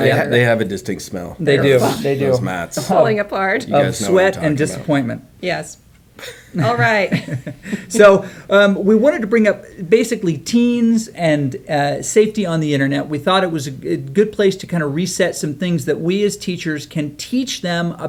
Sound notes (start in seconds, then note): 3.6 woman laughs; 6.2 coach chuckles